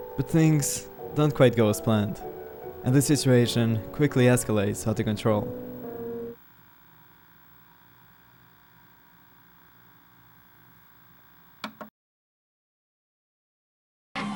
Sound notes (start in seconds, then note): 7.0 recorder rattling; 11.4 recorder clicks